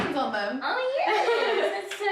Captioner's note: laughs